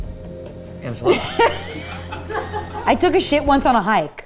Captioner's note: laughing